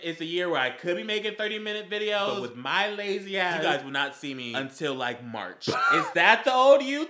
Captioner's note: wheeze once more